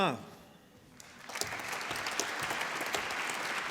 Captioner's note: applause